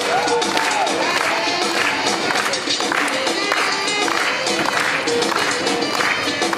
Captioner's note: audience clapping rhythmically